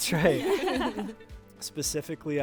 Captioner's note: group laughing